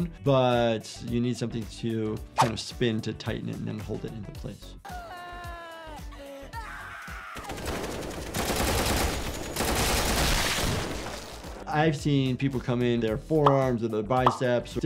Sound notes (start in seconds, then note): 4.9 character screaming; 7.5 gunshots exploding